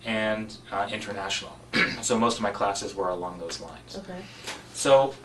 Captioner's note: cough